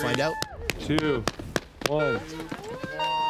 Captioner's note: horn beeping